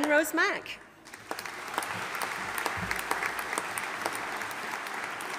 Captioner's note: audience applauding